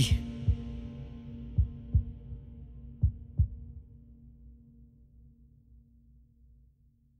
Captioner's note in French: pulsations cardiaques